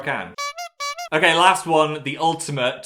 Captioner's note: horn tooting